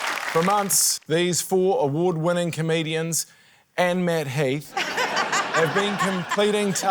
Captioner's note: laughter